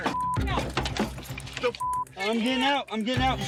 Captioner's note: beep